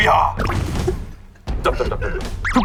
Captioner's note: the original writer can't stop laughing